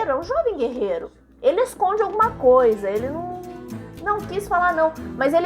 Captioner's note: suspicious hum